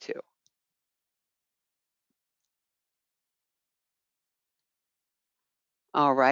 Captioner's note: 5 seconds pause